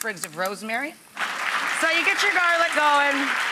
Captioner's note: clapping